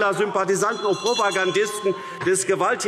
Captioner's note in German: Unruhe – Glockenzeichen